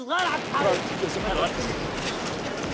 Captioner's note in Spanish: explosiones cercanas